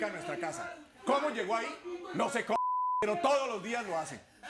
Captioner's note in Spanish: Bip